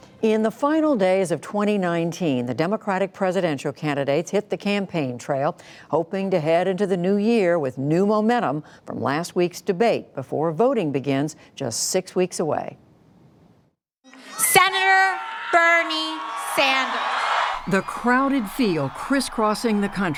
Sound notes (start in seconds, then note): 14.2 cheering and applause